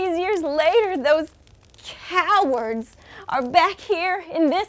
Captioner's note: fire crackles